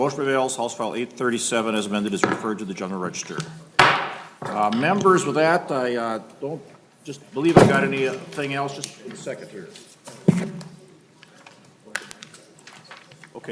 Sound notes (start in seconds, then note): 10.2 gavel